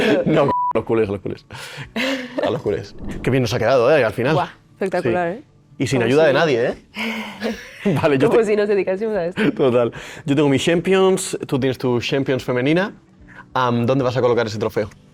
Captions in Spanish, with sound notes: ¿no? Los cules, a los cules, a los culés. Qué bien nos ha quedado, ¿eh? Al final. Bu, espectacular, ¿eh? Y sin ayuda de nadie, ¿eh? [risas] Vale, yo como si nos dedicásemos a esto. Total, yo tengo mi Champions. Tú tienes tu Champions femenina. ¿Dónde vas a colocar ese trofeo?